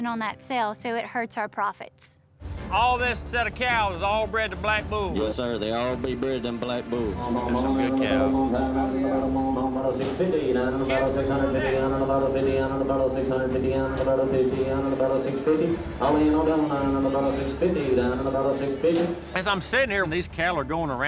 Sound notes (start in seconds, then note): 5.5 auctioneering